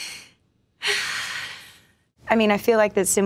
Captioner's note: sighs